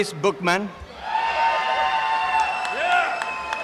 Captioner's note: applause and cheering